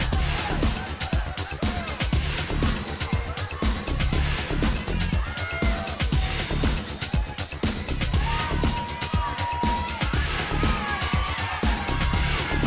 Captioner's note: crowd cheering